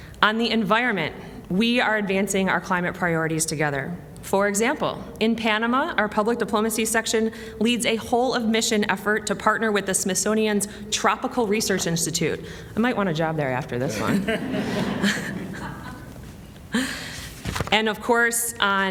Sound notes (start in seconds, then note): 16.8 laughter